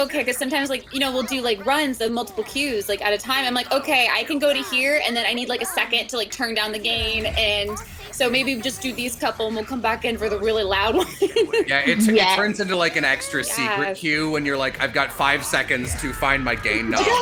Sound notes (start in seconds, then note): 10.7 laughs